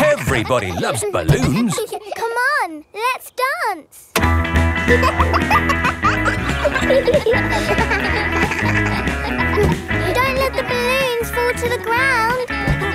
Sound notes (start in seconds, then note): 4.8 pop music playing; 5.5 kids laughing